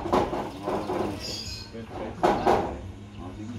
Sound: noisy background

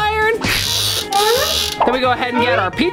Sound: timer turning

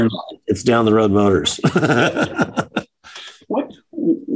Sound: chuckles

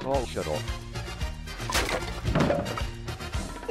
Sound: wood and junk slamming into wall

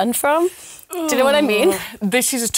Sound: grunts

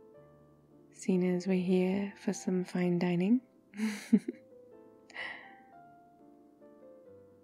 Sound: laughs

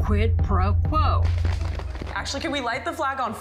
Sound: flag flapping

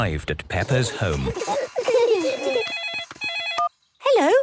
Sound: giggling; phone ringing

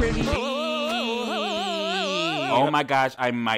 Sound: man cheering

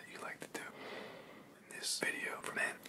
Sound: breathes

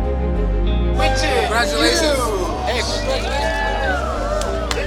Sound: crowd cheering

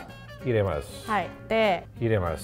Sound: speaks in foreign language

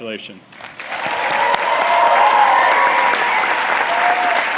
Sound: applause

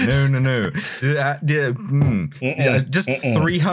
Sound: laughs; very unhappy noises

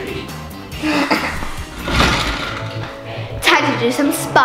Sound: chair scrapes

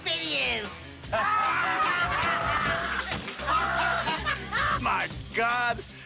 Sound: cheers and applause

